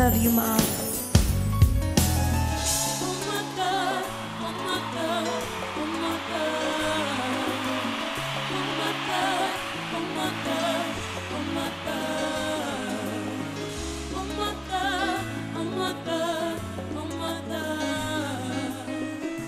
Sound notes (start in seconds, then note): 1.3 gentle piano music; 6.0 audience cheering